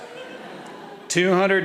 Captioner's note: audience laughing